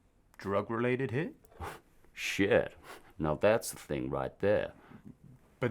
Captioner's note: scoffs